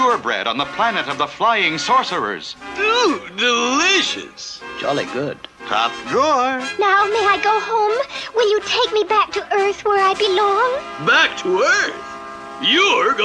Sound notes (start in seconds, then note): none